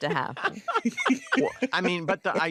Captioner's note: laughter